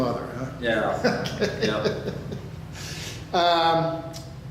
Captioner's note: laughs